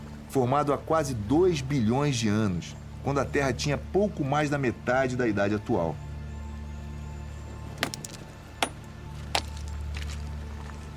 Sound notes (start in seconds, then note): 7.8 pickaxe hitting the stone